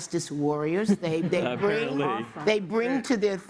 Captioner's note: laughter